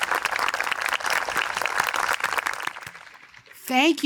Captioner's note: cheering; applause